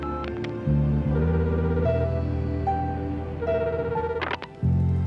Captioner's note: phone ringing; the sound of pressing buttons on a phone